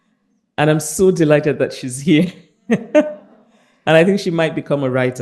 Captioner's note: laughs